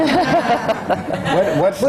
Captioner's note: laughter